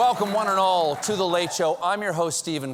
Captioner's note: cheers and applause